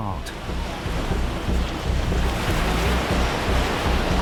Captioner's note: waves crashing